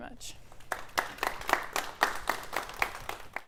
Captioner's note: applause